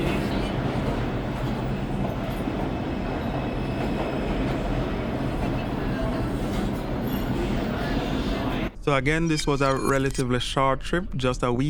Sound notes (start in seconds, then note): 2.4 train brakes screeching